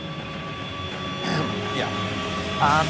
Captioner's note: clears throat